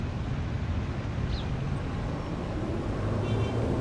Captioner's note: city noises